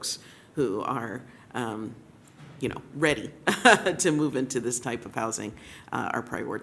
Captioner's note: laughs